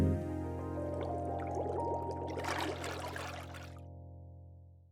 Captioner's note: water splashing